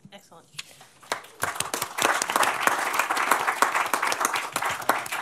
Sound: applause

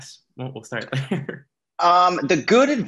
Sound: laughs

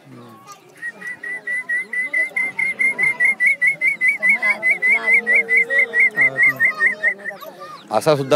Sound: whistles

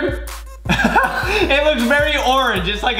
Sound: laughing

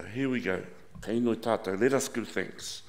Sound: speaking in foreign language

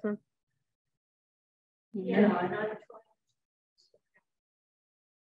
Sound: audience members speaking

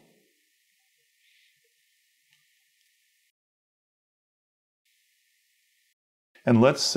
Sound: silence

